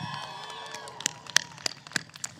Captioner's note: applause